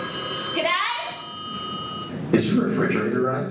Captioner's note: phone rings